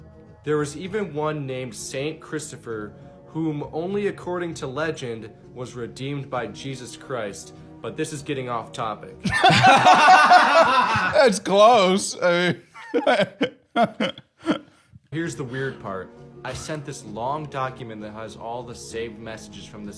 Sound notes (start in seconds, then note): 9.2 both laughing; 12.9 laughing